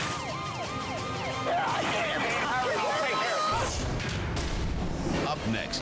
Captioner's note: siren blaring; firefighter screams